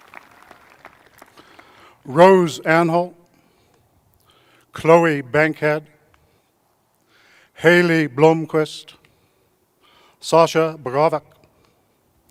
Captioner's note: applause